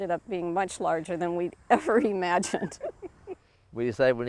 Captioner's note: chuckles